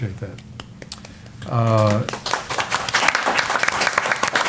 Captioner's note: applause